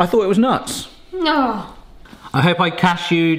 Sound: groans

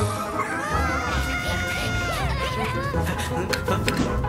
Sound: sound of robots; screaming

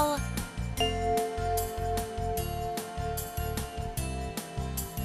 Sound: bell chimes

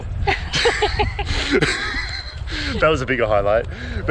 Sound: both laugh

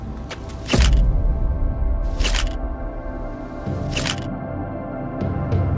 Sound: camera shutter repeats - schuck - schuck - schuck; gentle, atmospheric notes

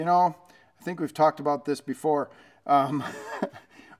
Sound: chuckles

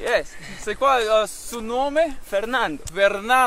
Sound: speaking in foreign language

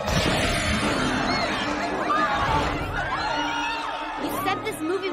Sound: crowd screaming

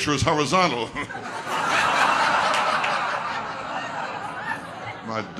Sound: audience laughter

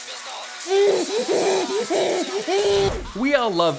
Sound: baby crying

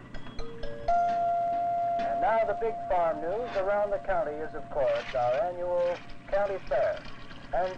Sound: radio

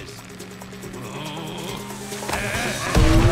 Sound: Snake grunts; sighs

